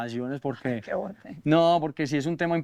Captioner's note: laughs